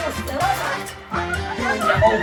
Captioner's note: mad laughter; pompous comedy music